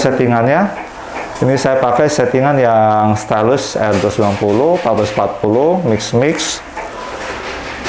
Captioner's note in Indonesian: suara mesin printer